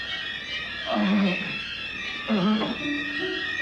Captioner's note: dramatic ominous music; Kurt groans; dramatic ominous music